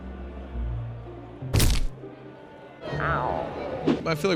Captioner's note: thunk